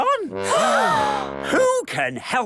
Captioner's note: all gasp